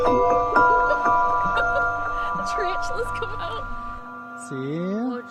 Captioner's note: laughing